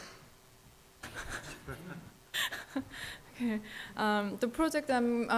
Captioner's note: audience laughs